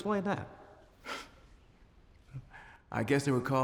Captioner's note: scoffs